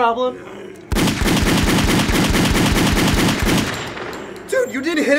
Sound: repetitive gun shots

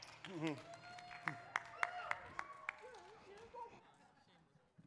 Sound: crowd applauding

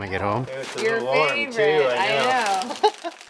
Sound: laughs

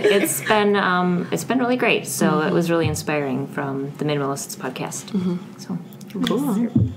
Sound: laughs

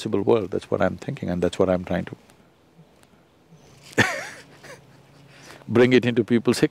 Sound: laughs

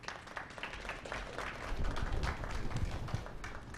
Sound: clapping

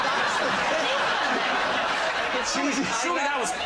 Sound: laughter

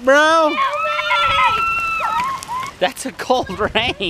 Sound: playful screaming

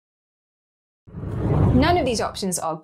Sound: air whooshes

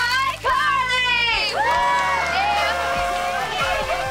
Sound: cheering

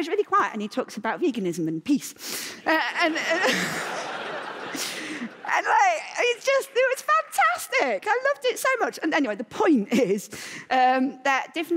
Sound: laughter

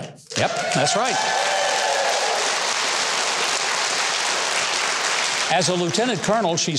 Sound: audience claps and cheers

